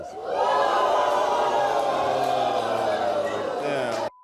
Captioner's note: audience groans